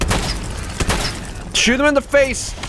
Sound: blam!

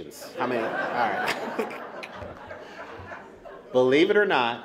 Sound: laughter

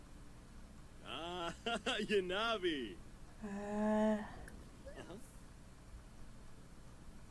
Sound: Simlish

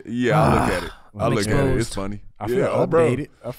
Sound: groans

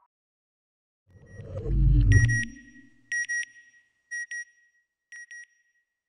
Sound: beep beep... beep beep

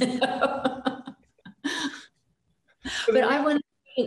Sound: laughs

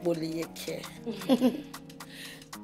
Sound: chuckles

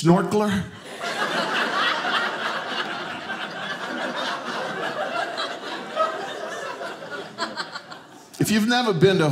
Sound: audience laughing

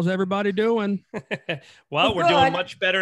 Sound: laughing

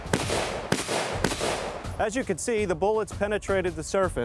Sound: shooting

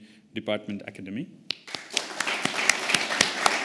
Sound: applause

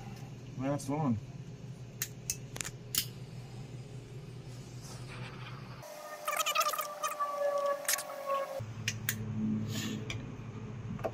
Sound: torch clicks on; torch clicks off

